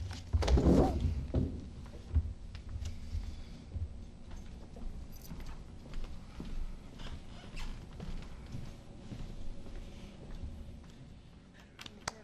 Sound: applause

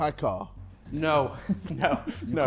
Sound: Sidemen laughing

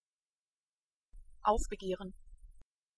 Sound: fast Pronunciation

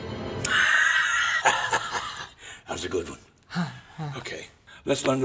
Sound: laughs

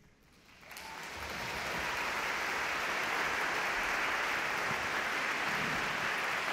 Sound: audience clapping; audience cheering

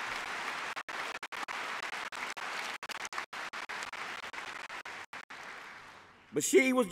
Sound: applause

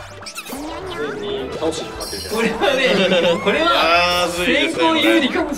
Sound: laughs

